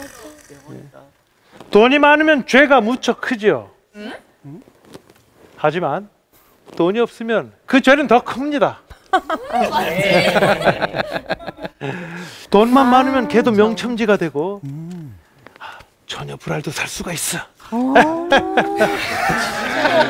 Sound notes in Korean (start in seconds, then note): 9.0 웃음소리; 17.7 웃음 소리